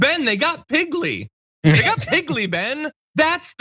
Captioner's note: laugh